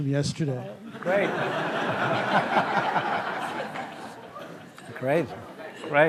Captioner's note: laughter